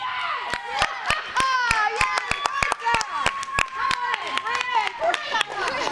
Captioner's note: cheerleaders and coaches cheer